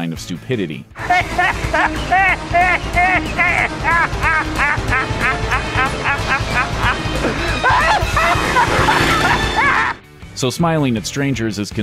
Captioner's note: stupid laughter